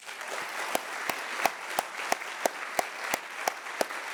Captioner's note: all clapping